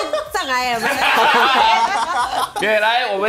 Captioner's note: laughs